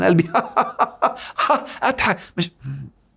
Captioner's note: laughs!